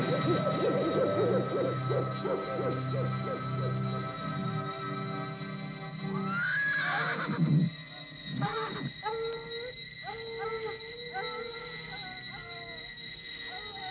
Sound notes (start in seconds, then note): 0.0 birds cooing; 6.2 horse whinnying; 10.0 dogs howling